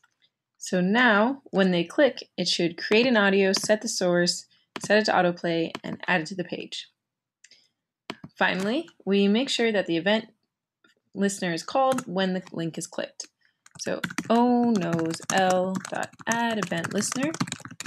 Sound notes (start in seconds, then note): 13.6 typing